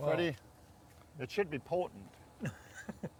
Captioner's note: chuckling